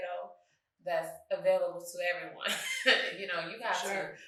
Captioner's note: chuckles